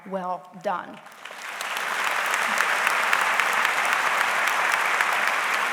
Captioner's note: audience applauds